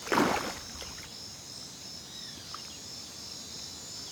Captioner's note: water splashing